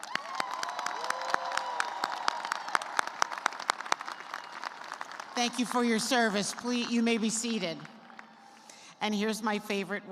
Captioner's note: cheers and applause